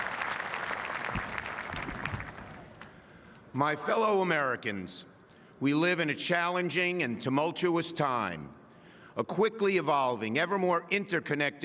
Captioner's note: applause